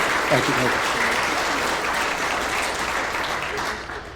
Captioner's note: applause